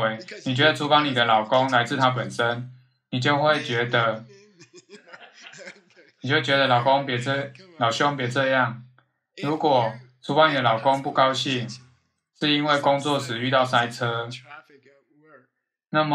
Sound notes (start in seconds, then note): 5.0 students laughing